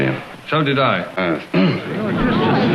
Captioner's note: clears throat